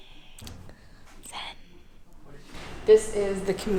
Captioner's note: deep inhale and exhale